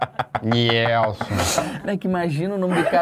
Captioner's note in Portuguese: risadas